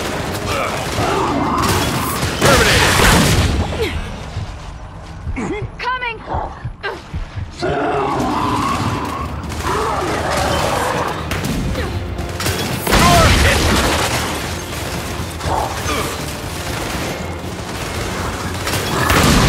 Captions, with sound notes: Durbinated. Coming. [GUNFIRE] [GUNFIRE] Oh, shit.